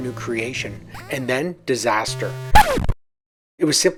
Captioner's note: sound of a record scratch